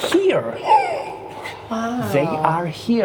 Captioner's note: gasps